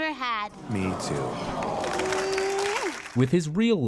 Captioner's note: they hug it out & audience goes "aww"